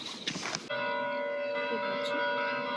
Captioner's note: the monastery bells ring at just the right time